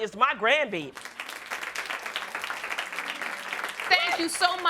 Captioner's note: audience clapping